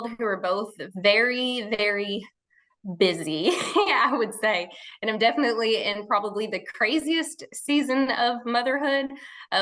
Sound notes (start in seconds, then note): 3.9 laughing